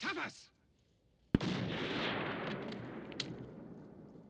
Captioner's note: gunshot